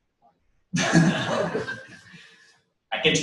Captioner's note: pause